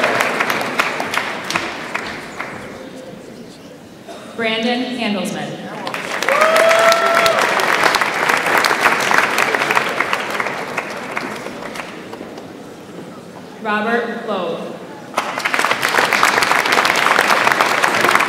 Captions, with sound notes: Brandon Handlesman. (audience applauds) Robert Lowe. (audience applauds)